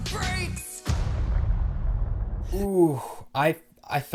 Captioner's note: boom